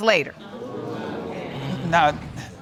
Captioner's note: audience murmuring